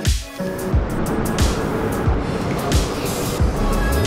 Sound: water rushing

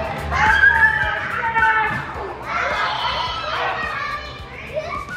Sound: high screaming

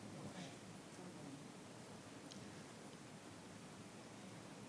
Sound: speaking faintly

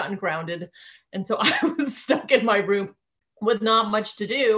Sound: laughing

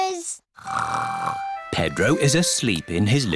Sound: snores

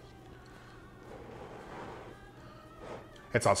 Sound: breath blowing

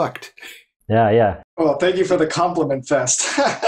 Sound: laughter

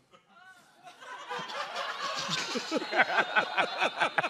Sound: laughter

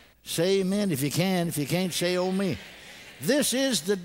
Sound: congregation: "amen."

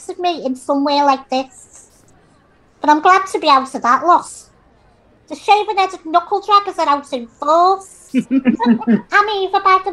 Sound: laughter

